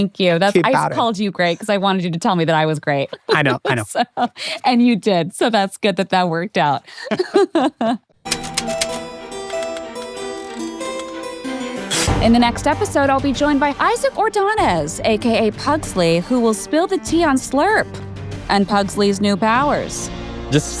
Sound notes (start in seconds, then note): 3.0 laughs; 6.8 laughs; 8.2 keyboard clacking; 8.3 suspenseful music